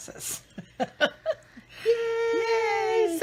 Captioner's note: laughing